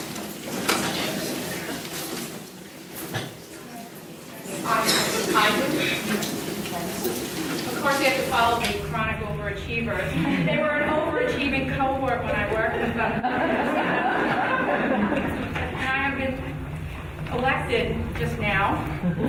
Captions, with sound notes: - Hi. Of course, we have to follow the chronic overachiever. They were an overachieving cohort when I worked with them. (audience laughing) And I have been elected just now